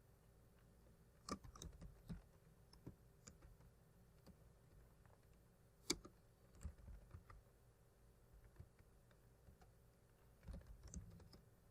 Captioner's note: typing